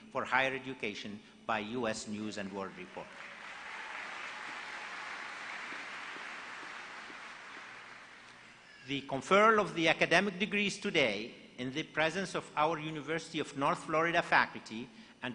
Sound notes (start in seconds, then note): 2.5 applause